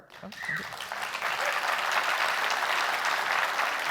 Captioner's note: applause